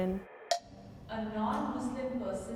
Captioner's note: timer taps